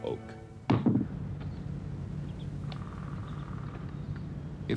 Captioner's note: chopping into wood